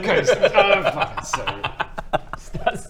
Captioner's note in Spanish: risitas malvadas